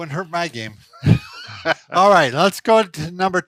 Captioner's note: laughing